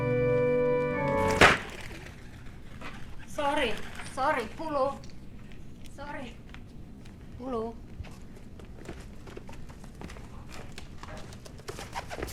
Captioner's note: thud